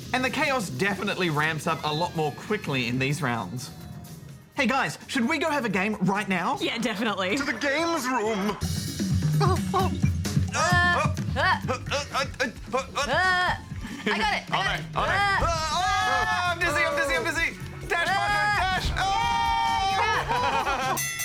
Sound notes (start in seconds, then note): 9.7 laughs; 10.5 both grunt; 14.9 both grunt; 20.9 bell dings